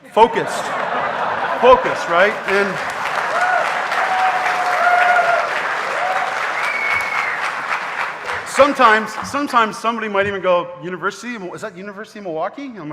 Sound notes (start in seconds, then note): 0.0 audience laughing; 3.2 audience cheering